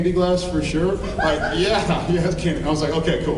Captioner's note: laughing